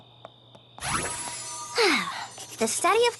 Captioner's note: sighs